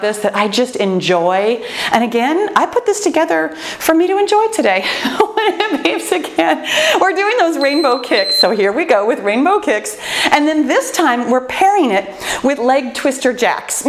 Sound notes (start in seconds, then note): 5.0 laughs joyfully; 7.5 timer beeping